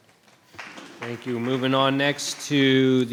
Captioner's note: audience applauding